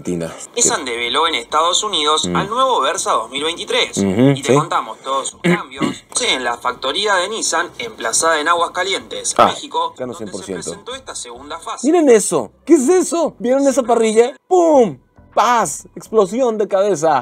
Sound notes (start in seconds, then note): 0.2 man speaking in Spanish